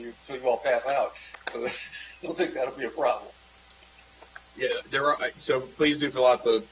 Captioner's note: laughter